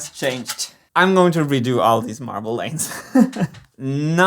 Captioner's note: laughs